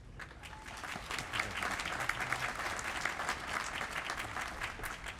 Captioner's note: applause